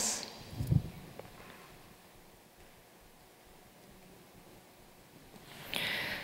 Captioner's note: silence